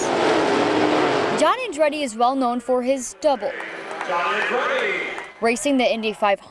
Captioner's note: racing sounds